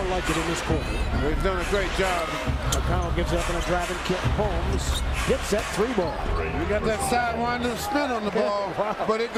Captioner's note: loud crowd noise